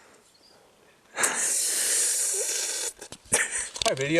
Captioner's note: slurrrrrrrp